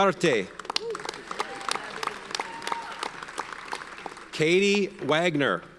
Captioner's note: audience cheers and applauds